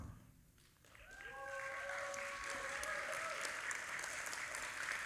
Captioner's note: audience applauding